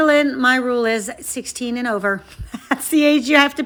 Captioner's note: chuckles